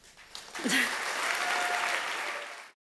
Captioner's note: audience cheers and applauds